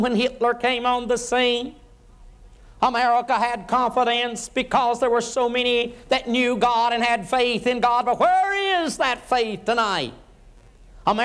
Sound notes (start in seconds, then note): none